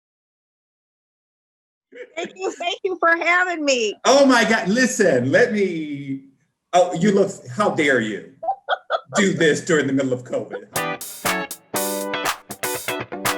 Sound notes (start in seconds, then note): 1.9 laughing; 8.4 laughing; 10.7 intro music